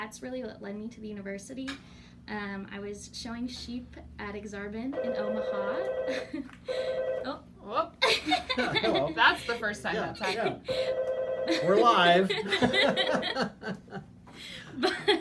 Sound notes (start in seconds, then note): 6.7 phone ringing; 9.5 laughing